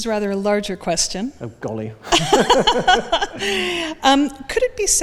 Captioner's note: laughs